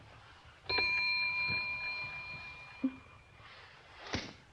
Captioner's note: bell dings